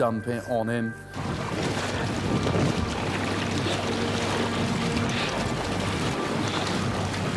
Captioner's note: suspenseful music; water splashing